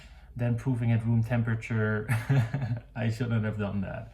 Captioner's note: laughs